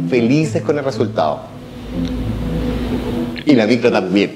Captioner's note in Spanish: ruido de bus